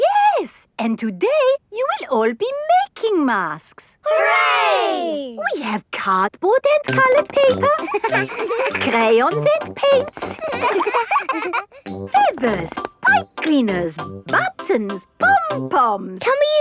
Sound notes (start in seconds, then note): 10.3 all laughing